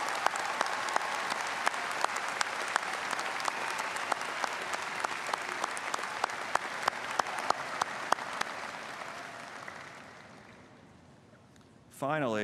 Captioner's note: applause